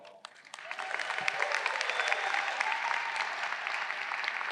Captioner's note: audience cheering